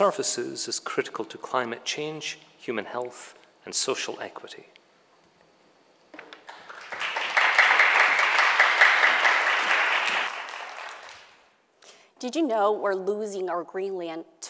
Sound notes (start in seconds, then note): 6.2 audience clapping